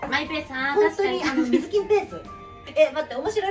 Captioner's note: laughs